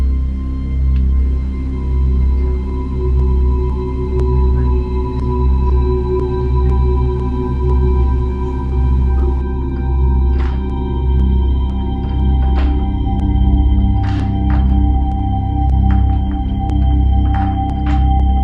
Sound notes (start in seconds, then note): 10.4 knob jiggling; 15.1 eerie music